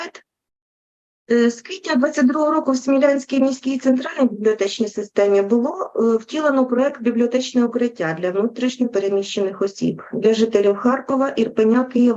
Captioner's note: foreign Language Spoken